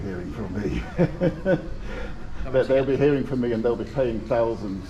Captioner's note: laughter